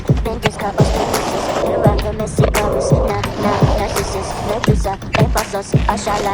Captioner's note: upbeat rap music; skateboard wheels grinding